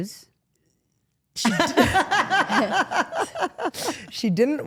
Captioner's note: Steph laughs